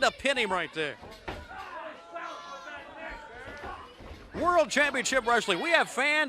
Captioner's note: crowd chatter